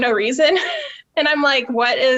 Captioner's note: laughing